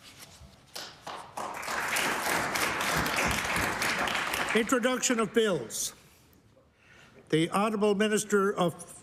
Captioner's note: applause